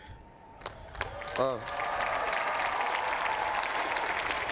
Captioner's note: applause